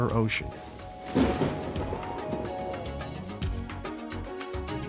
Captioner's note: thunder rumbles